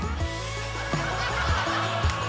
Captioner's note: laughter